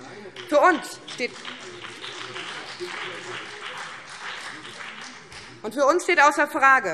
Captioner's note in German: Beifall BÜNDNIS 90/DIE GRÜNEN